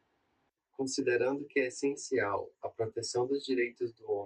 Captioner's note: speaking portuguese